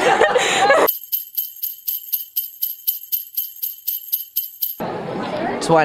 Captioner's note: bells jingling